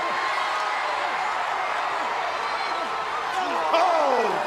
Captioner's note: crowd cheering